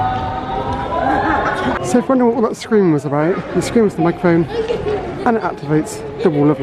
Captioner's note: screaming